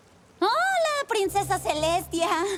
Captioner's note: fake cheerfullness